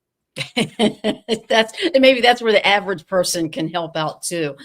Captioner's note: laughs